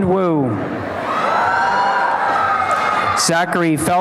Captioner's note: applause and cheering